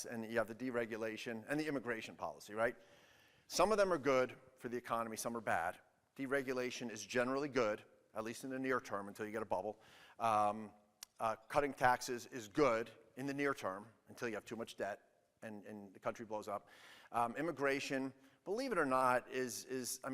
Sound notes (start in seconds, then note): none